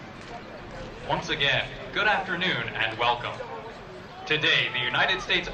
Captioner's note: voiceover